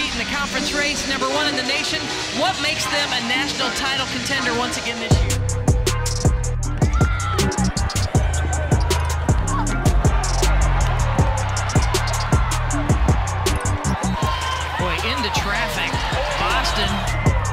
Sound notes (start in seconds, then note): 5.9 hip hop music; 6.7 crowd cheering; 17.3 hip hop music